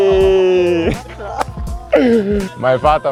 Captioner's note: joyful sounds